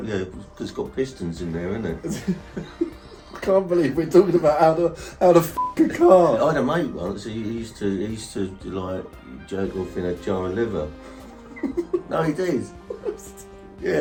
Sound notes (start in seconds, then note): 5.5 beep; 11.2 laughing